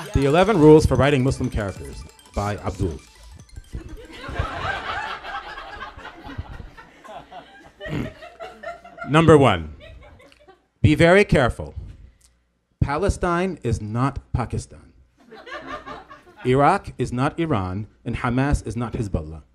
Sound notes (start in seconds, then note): 3.9 laughs; 7.8 clears throat